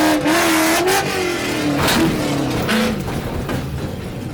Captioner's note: engine revving